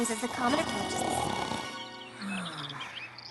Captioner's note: snoring; birds chirping